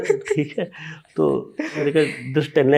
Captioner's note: speaks in Hindi